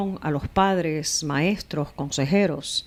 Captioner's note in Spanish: Hablando ingl\s